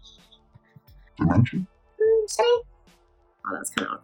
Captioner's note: deep voice